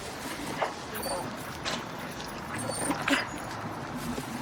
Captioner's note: dog whining